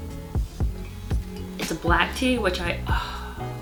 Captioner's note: pleasure sigh